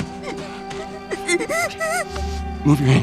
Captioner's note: crying